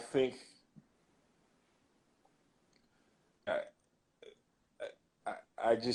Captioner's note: glitch